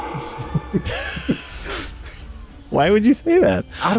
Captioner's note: giggling